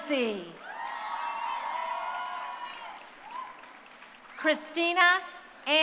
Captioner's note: crowd cheering